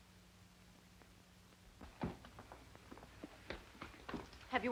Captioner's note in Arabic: أقدام تضرب بهدوء